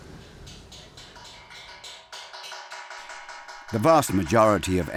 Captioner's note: metal clanging